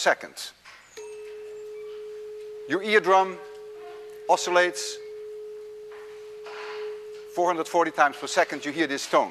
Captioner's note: tuning fork produces medium-pitched tone